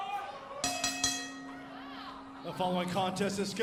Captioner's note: bell ringing